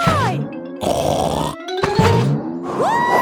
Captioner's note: snorts